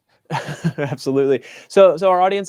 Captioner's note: chuckles